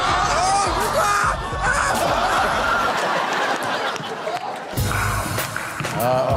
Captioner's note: people shouting and laughing